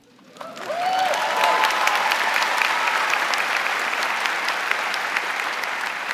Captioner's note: audience cheering and applauding